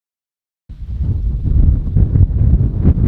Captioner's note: wind howling